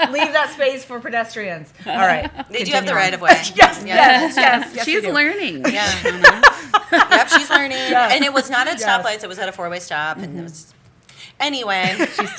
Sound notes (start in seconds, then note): 7.3 laughter